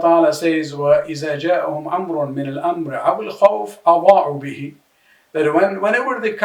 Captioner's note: arabic